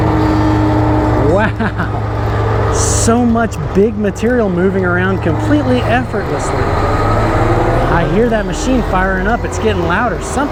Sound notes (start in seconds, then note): 6.9 machine whirring